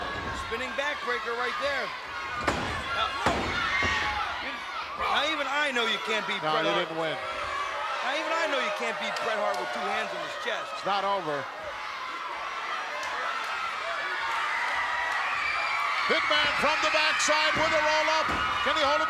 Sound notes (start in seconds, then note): 2.4 hand pounding